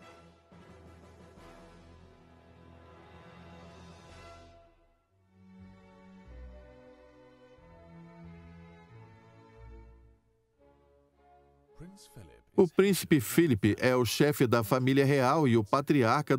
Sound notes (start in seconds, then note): 5.8 tranquil music; 11.7 voiceover